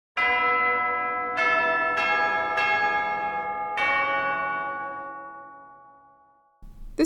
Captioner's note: monastery Bell Chimes